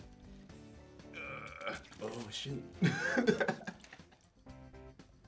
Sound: groans; laughs

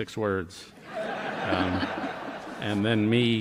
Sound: laughter

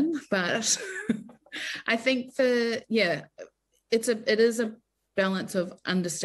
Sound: chuckles

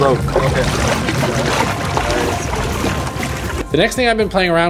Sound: water splashing

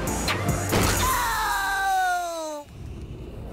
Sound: beast boy screams in pain

